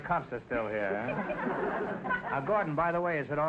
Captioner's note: audience laughter